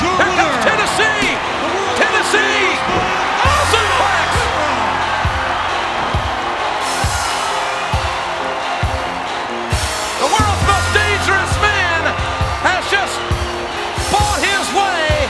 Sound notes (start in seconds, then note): 4.7 crowd cheering; 4.7 intense music